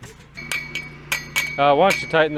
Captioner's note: rail clanks